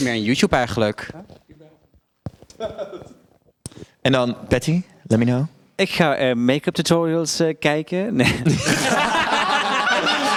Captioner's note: all laugh